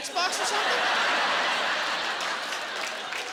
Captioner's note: laughing